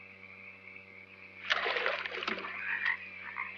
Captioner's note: water splashes; frogs croaking